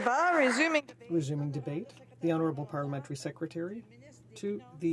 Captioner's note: applause